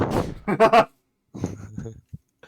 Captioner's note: laughing